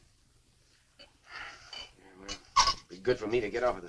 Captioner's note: sighs